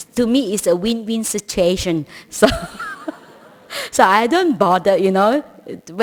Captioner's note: laughter